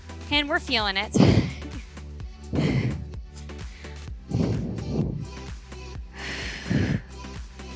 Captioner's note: upbeat music continues; exhaling